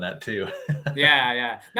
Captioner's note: laughing